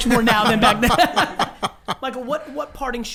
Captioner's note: laughing